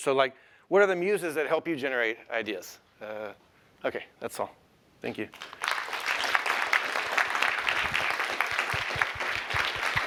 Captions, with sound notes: So what are the muses that help you generate ideas? OK, that's all. Thank you. [APPLAUSE]